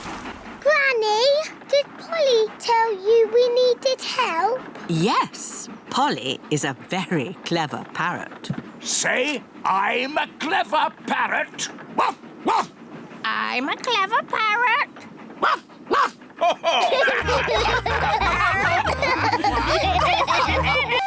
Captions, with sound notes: -Granny? Did Polly tell you we needed help? -Yes. Polly is a very clever parrot. Say, "I'm a clever parrot." (BARKS) I'm a clever parrot. (BARKS) (ALL LAUGH)